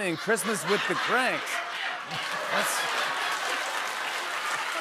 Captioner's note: laughter; applause